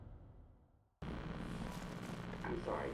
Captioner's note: television static buzzing